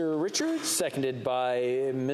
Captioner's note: speaking French